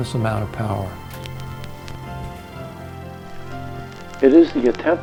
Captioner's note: projector whirring